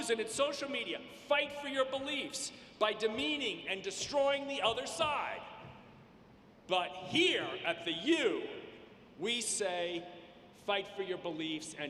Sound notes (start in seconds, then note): none